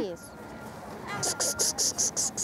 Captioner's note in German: Locklaute